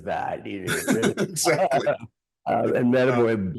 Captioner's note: laughing